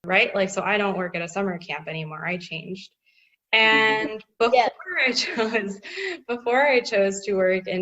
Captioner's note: laugh